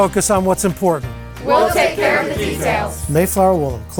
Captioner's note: crowd